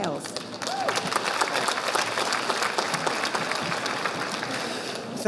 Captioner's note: audience applauding